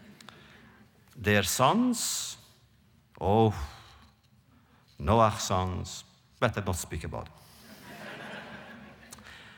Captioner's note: laughter